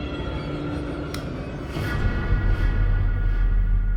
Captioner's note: click